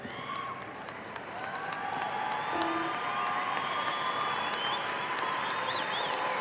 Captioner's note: audience applauding and cheering